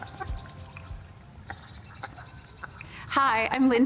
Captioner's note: birds vocalizing